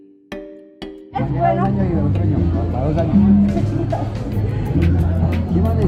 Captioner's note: speaking foreign language